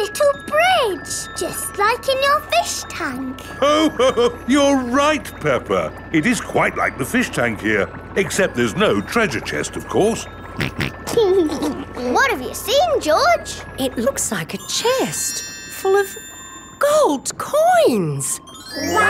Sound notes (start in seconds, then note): 3.6 laughs; 10.6 snorts and laughs